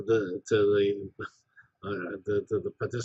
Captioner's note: laugh